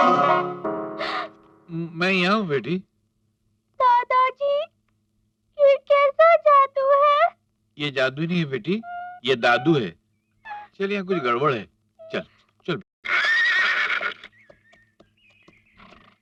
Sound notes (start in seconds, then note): 13.0 horse neighing